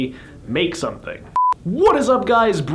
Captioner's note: beeping